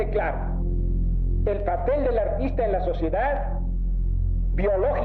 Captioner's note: person speaking Spanish